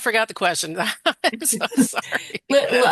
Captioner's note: laughing